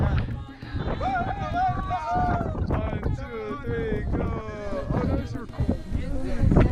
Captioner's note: group cheering